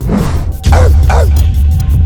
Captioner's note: logo whooshing; dog barking